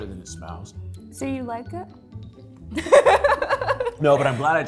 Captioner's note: laughs